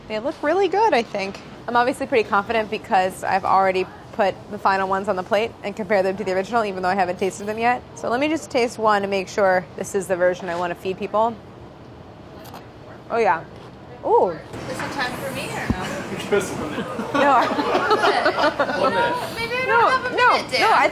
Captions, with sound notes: They look really good I think. I'm obviously pretty confident because I've already put the final ones on the plate and compared them to the original, even though I haven't tasted them yet. So let me just taste one to make sure this is the version I want to feed people. Oh yeah. Oh! - Is it time for me, or no? [laughs] Maybe I don't have a minute, Dan.